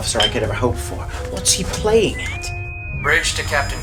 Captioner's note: intercom whistle